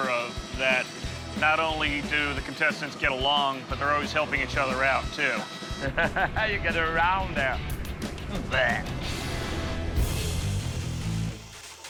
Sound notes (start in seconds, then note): 5.6 laughs